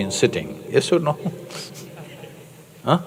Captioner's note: laughter